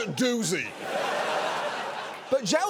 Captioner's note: studio audience laughing